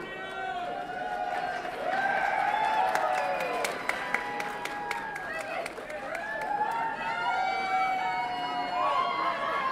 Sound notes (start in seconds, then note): 2.2 audience applauds and cheers